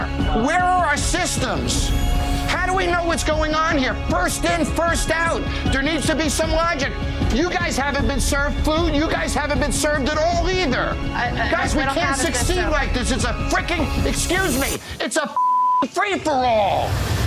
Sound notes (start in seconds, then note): 15.4 beeping